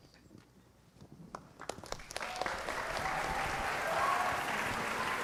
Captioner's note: applause